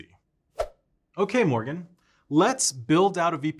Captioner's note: swoosh effect